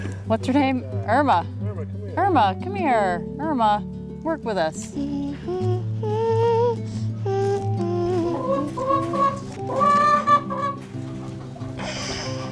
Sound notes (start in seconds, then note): 4.8 humming as she walks to the chicken coop; 8.0 chicken clacking as collects eggs